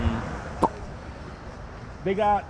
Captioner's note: lips pop